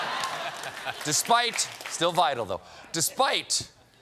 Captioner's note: laughter